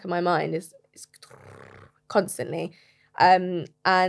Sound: whirring sound

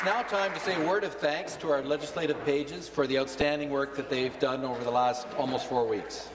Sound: applause

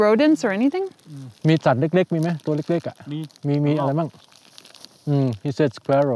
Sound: speaking in foreign language

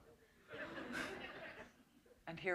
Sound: laughter

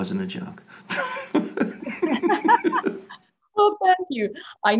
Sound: both laughing

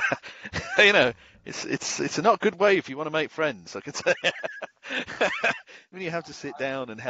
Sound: laughs

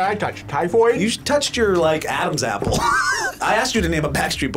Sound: laughs

